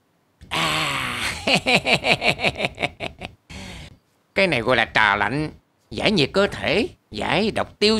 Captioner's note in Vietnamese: Tiếng cười